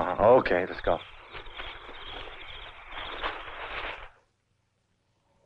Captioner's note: bushes rustling; machinery humming